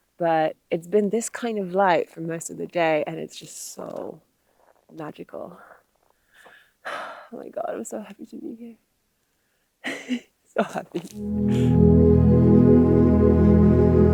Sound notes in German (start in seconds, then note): 6.8 seufzt; 11.0 sanfte Musik